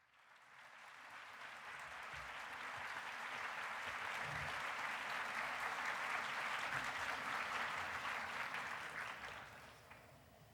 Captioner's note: applause